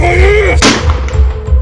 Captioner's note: gun Shot